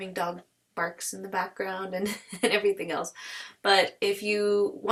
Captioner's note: laughs